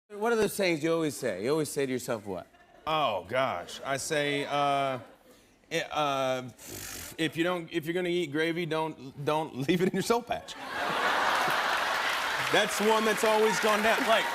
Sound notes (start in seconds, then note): 10.5 laughter and applause